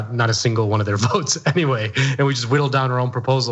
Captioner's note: laugh